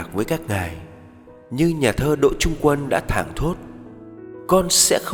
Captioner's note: Vietnamese